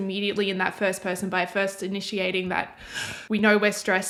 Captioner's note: breath